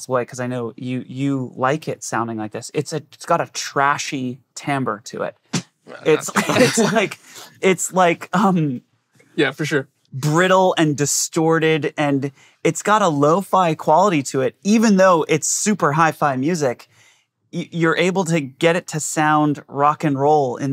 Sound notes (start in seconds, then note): 6.0 they chuckle